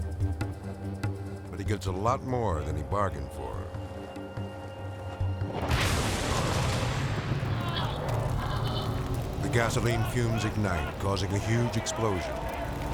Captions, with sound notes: but he gets a lot more than he bargained for. (explosion booming) The gasoline fumes ignite, causing a huge explosion.